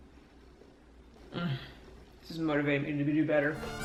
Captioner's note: sighing